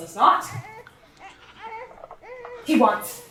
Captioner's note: baby crying